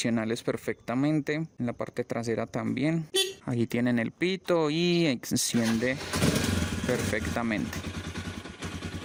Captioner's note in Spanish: claxon